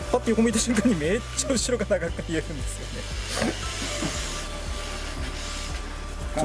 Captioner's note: laughs